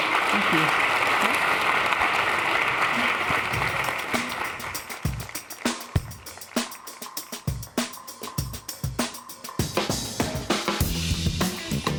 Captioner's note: applause